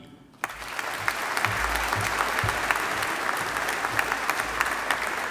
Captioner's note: audience applauding